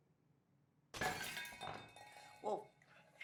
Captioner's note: dish crashing